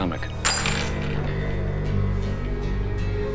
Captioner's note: coins clinking